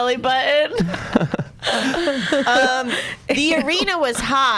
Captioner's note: laughs